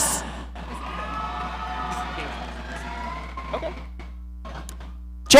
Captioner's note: audience cheering